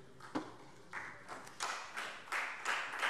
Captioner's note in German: Beifall Freie Demokraten